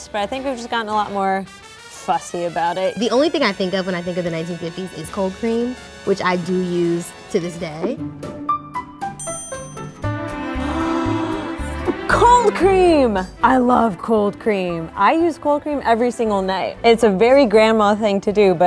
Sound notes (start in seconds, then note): 7.8 gentle instrumental music; 10.4 gasping